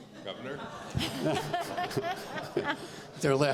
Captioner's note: laughter